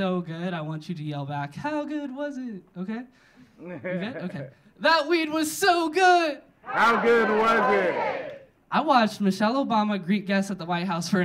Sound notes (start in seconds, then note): 3.4 audience laughing